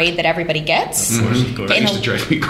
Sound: laughter

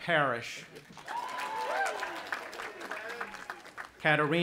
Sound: audience applauding and cheering

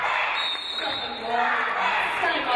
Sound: referee blows whistle

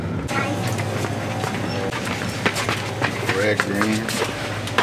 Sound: birds chirping; traffic humming; footsteps approaching

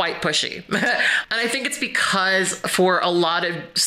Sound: chuckles

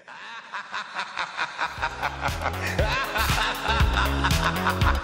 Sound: Vincent Price laughs evilly

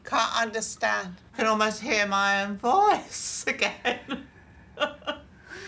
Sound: laughs

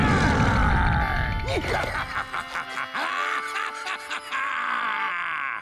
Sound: laughing

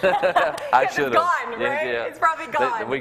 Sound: laughs

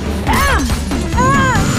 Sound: screaming

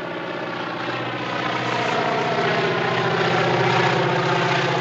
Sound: plane engine roaring

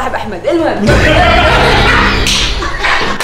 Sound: everyone laughs

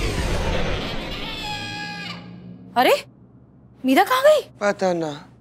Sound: zooming noise

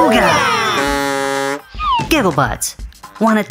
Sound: horn

